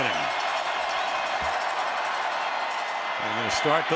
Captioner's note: crowd cheering